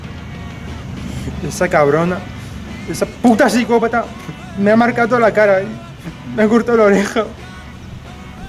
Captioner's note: crying